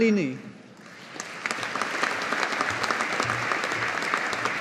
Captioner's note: audience applauding